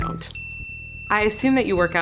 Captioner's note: lightly dings